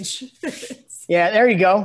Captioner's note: laughs